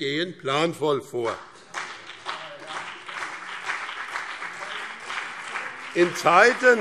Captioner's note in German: Beifall BÜNDNIS 90/DIE GRÜNEN und vereinzelt CDU - Zurufe SPD